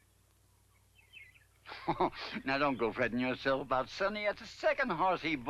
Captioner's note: chuckles